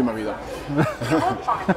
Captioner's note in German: lachen